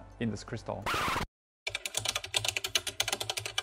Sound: record scratch sound

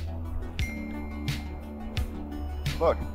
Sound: lively music; notification dinging

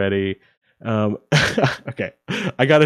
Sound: chuckles

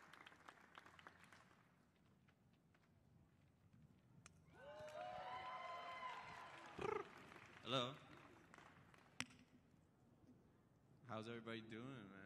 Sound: applause

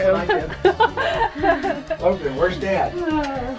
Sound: laughter

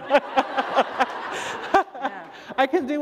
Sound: laughter

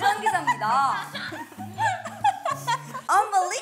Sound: burst out laughing

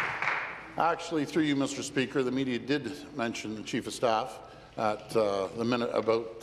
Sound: applause

